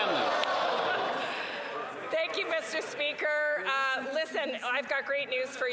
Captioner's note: some Applause